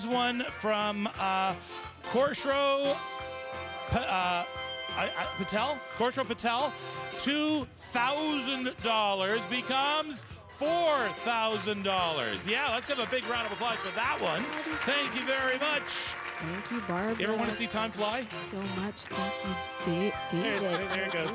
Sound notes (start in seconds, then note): 14.4 cheers and Applause; 17.4 applause